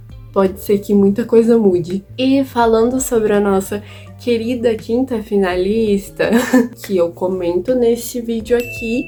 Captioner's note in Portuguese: risos